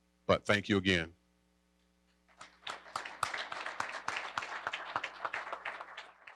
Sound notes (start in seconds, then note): 2.3 applause